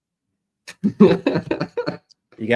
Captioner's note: laughs